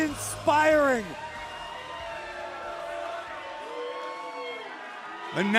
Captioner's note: crowd cheering